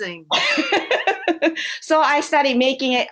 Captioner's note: laughter